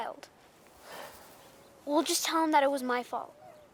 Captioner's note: Jack sighs